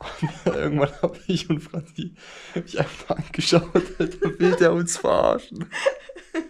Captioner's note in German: Gelächter